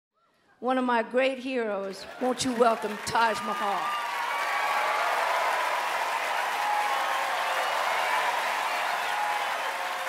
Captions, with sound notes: - One of my great heroes, won't you welcome Taj Mahal? (cheering and applause)